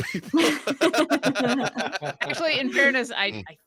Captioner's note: group laughs